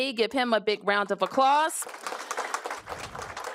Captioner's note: applause